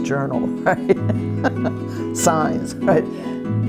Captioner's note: laughs